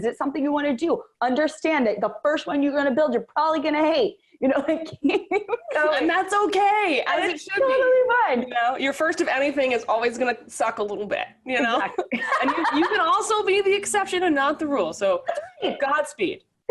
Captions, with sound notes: Is it something you wanna do? Understand that the first one you're gonna build, you're probably gonna hate, you know (laughs)-- - And that's okay. - And that's totally fine. - You know, your first of anything is always gonna suck a little bit, you know. And you can also be the exception and not the rule. So God speed.